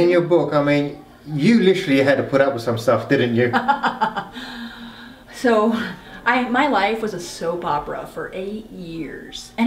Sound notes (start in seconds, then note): 3.4 laughing